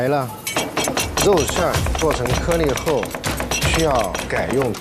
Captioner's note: rhythmic Cleaver-Back Pounding